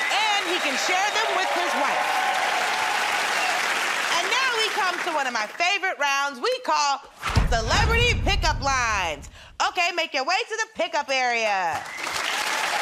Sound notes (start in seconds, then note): 2.5 cheers and applause